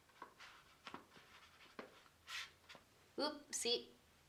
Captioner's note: paintbrush scratching